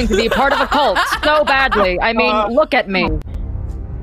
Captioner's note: laughing